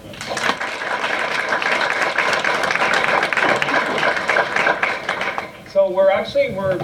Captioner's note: applause